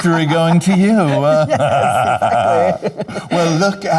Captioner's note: both laughing